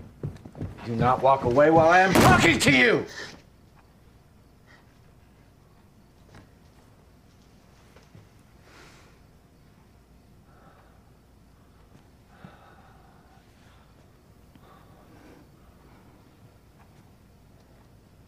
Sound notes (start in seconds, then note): 1.4 bangs wall; 10.0 breathing heavily